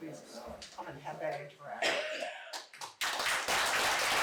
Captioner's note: applause